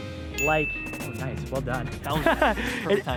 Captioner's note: laughs